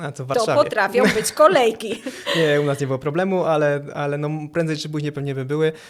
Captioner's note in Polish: śmiech